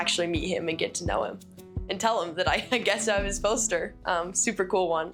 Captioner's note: chuckling